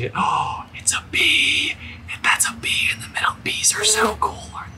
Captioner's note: gasps